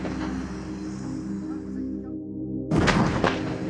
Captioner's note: sound of gunfire